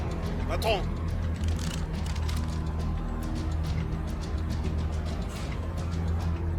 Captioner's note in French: musique pleine de suspense; homme de main parlant une langue étrangère